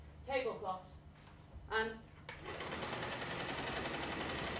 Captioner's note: sewing machine